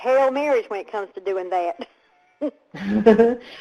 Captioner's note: laughs